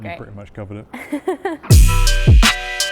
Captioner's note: laughing; upbeat hip hop music